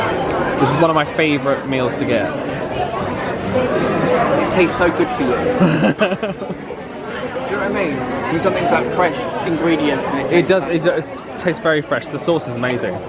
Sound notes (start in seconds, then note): 5.6 laughs